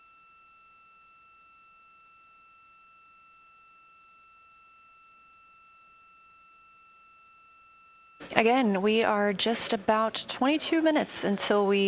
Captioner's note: silence